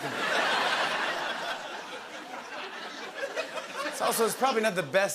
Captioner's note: laughter